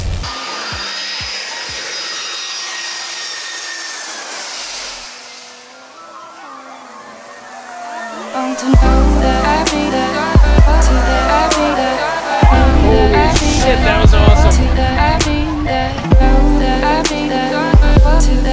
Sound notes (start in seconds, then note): 0.2 jet engines screaming; 4.9 crowd screaming